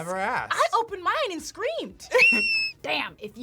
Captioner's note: screams